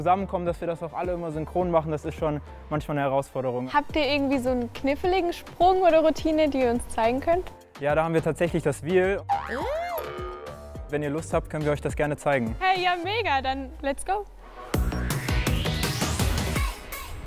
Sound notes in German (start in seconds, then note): none